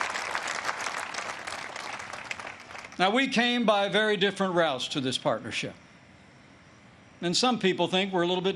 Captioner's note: applause